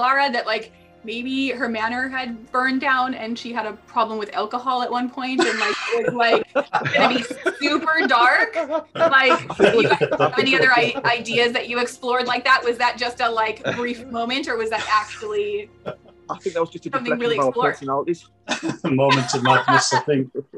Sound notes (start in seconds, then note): 9.3 laughing